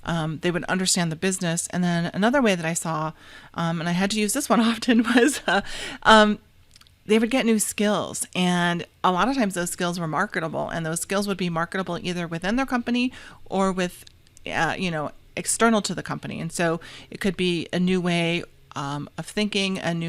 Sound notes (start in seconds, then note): 4.8 laughs